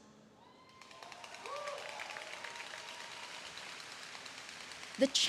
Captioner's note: audience applauding